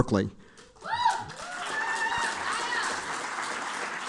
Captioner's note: applause